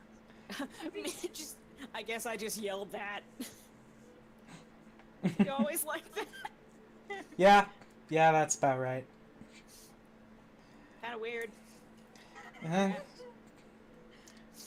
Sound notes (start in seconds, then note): 1.0 laughing